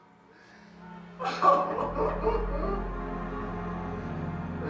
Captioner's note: Robert crying